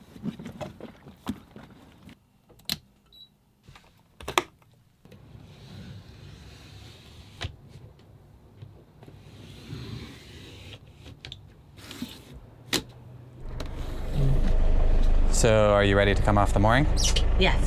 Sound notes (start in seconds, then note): 2.8 switches clicking; 5.7 tool scraping